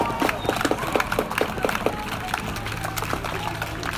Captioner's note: crowd Cheering!